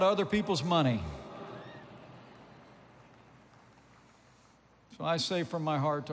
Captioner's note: applause